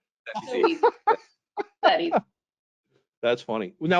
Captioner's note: laughs